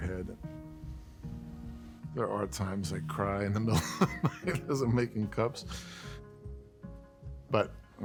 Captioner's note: laughter